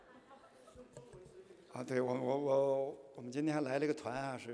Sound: speaking chinese

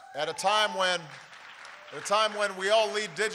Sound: applause

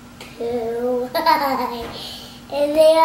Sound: laughs

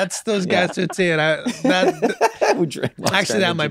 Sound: laughs

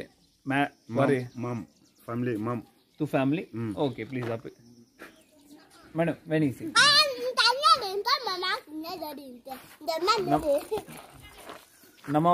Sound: speaking in Foreign language

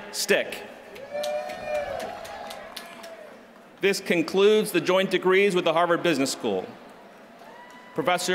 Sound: applause

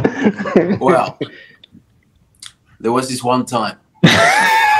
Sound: laughter

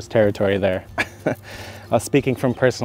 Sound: laughs

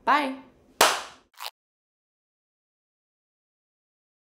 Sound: claps hands

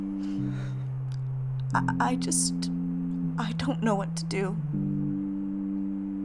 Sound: sobs

